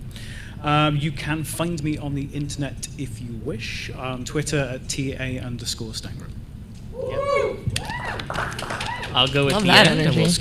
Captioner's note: applause